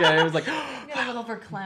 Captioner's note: laughter